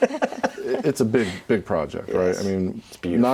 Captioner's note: laughing